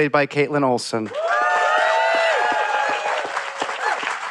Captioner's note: cheering, applause